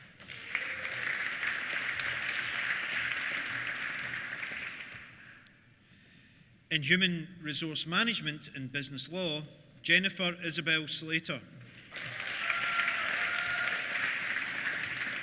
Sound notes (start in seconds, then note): 0.0 applause; 11.6 applause; 11.9 cheers